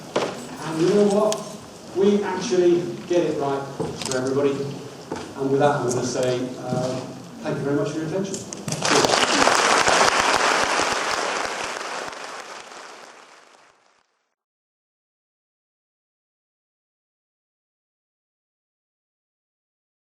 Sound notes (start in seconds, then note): 8.7 audience claps loudly